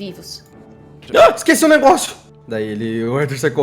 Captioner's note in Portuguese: Grito de surpresa